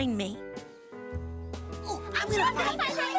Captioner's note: all chattering